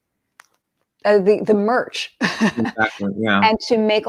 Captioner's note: laughs